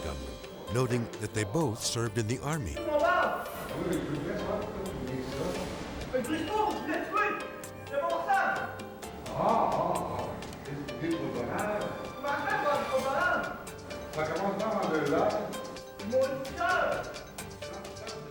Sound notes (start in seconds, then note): 2.6 gunman speaking French; 3.7 speaking French; 5.8 gunman speaking French; 9.0 speaking French; 11.9 gunman speaking French; 13.9 speaking French; 15.7 gunman speaking French